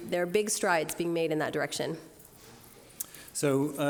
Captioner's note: none